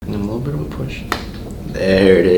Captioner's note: neck cracks